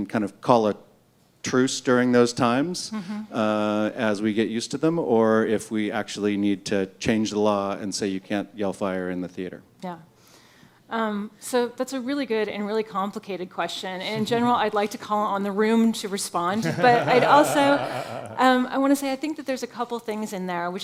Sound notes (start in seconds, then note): 16.5 laughter